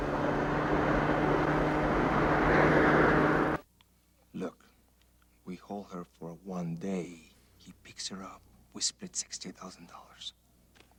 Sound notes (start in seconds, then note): none